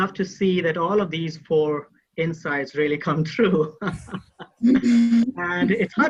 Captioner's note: laughs